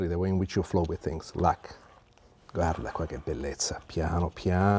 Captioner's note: speaking Italian